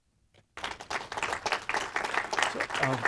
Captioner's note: applause